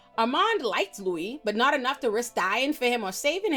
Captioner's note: none